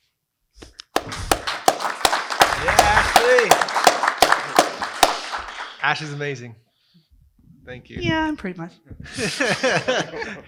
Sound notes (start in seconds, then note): 3.0 applause